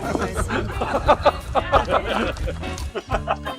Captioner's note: all laughing